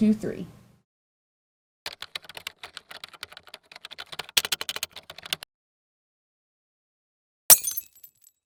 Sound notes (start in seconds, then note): 1.8 typing sound; 7.5 glass breaking